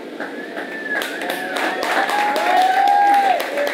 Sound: audience cheers and applauds

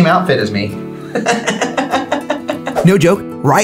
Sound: laughs

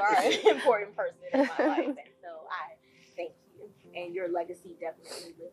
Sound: laugh

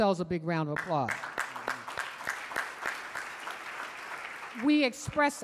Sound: audience applauding

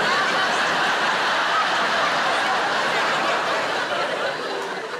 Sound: audience laughing

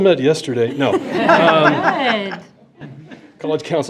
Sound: board laughing

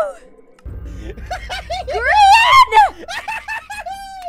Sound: laughs manically

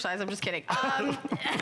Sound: laughter

